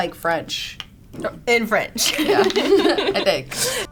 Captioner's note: laughing